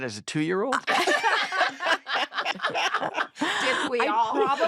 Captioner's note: all laugh